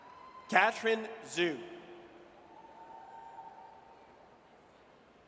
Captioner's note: audience cheers